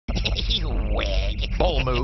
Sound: laughs

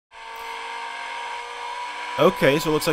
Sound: engine revving sound

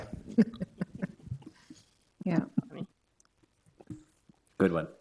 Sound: all chuckling

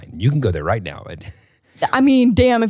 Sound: laughs

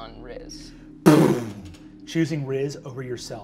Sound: imitates magic whirring

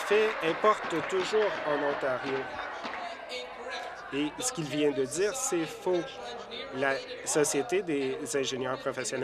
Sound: applause

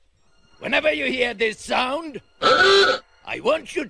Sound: car horn

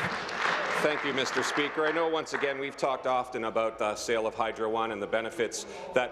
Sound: applause

